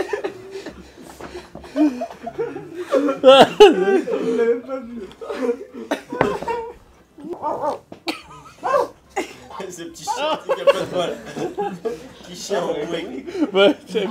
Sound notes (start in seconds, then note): 8.6 fakes a dog barking